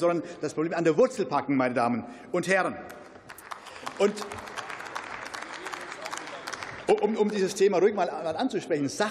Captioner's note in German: Beifall